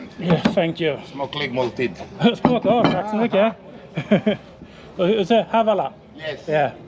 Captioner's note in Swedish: skratt